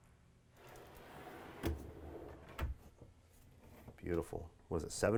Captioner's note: drawer scraping